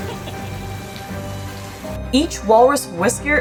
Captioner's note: laughs; walrus vocalizes; background music; water running/splashing sounds